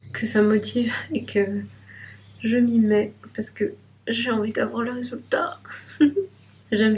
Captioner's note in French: rires